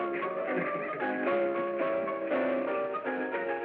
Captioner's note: laughing